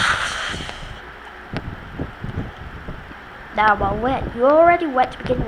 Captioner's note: splash